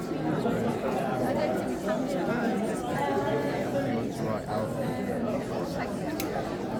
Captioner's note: crowd chattering